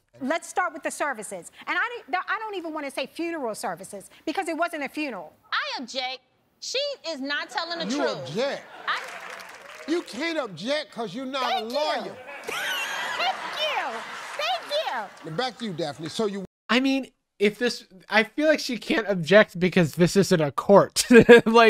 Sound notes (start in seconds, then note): 14.2 audience laughing